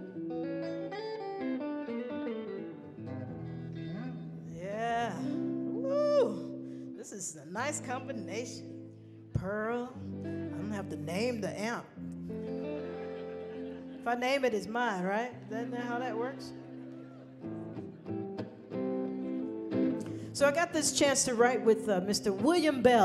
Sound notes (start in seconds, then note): 0.1 guitar strumming; 12.4 people laughing; 17.4 guitar strumming